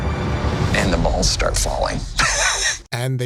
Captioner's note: laughs